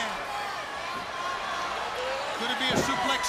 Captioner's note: crowd cheering